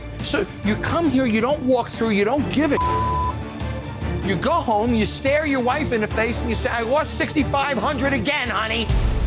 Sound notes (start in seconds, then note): 2.7 beep